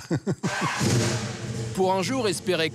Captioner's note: laughs; engine revs